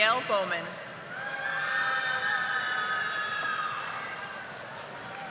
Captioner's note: audience applauding